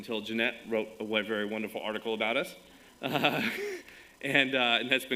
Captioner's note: chuckles